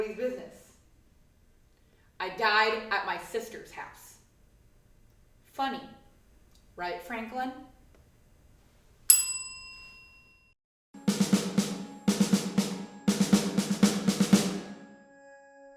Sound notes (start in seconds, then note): 9.1 bell; 11.0 snare drum fill